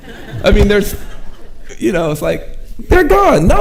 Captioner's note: audience chuckling